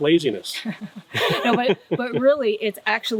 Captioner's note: laughing